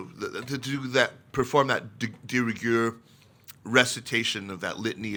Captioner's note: speaks in foreign language